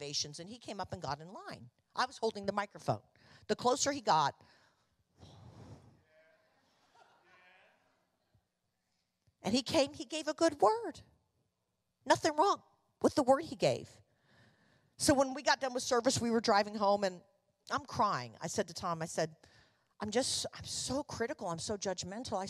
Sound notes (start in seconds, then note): 5.2 congregation affirming